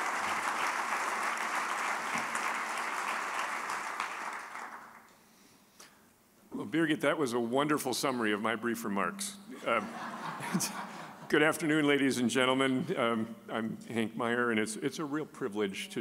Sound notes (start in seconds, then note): 9.6 audience laughing